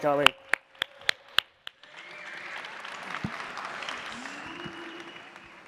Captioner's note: applause and cheering